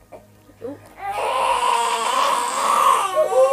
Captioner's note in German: Babyschreien